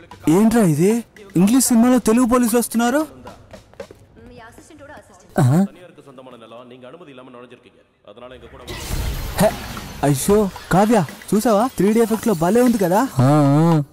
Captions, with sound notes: Why do I see local police in an English movie? (Gasps) Kavya, did you see that? The 3D effect looks so good.